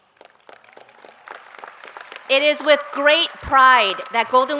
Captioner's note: applause